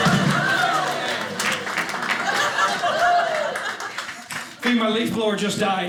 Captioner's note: audience laughing